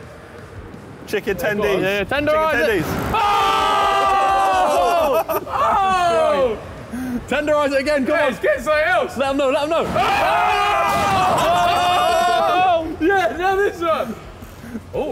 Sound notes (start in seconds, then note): 3.0 all cheering; 9.8 all cheering